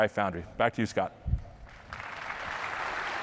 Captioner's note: applause